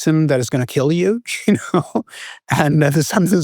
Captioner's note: chuckles